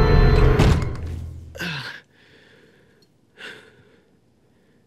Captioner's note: grunts